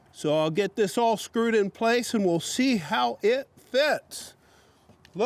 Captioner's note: none